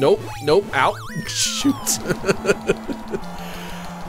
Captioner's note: laughs